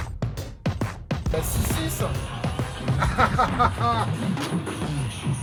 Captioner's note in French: Rires